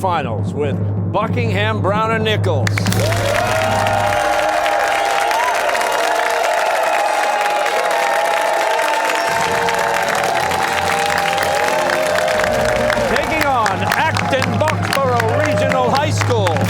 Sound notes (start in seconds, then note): 2.8 fanfare playing; 7.2 cheers and applause